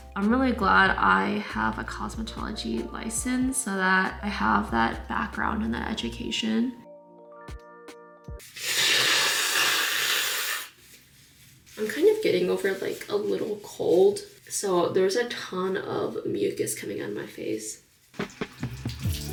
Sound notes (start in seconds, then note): 8.4 blows nose aggressively